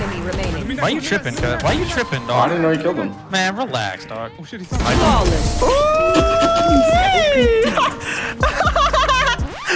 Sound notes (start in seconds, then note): 4.7 gun shots; 5.6 screaming and laughing